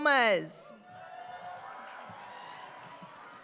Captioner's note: applause